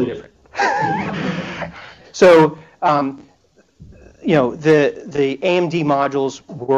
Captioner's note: laughter